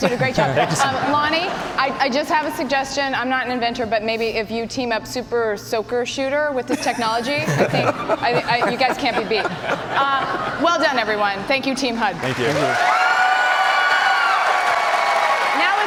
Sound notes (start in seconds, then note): 6.7 laughter; 10.2 cheers and applause